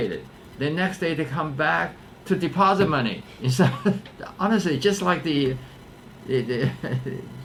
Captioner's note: laughs